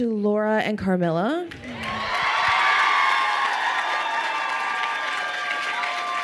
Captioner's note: crowd cheering and applauding